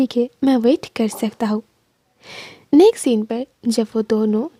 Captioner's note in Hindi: नाक से की जाने वाली आवाज़